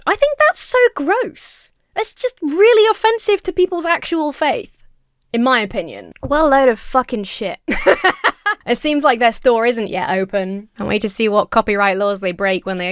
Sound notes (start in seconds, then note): 7.6 laughs